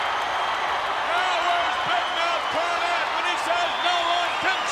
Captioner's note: applause